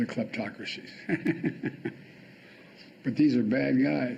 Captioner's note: laughing